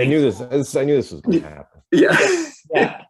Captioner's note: laughter